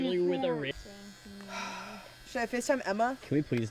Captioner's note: buzzing; exhale